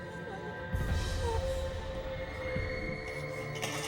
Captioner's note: whimpering; whimpering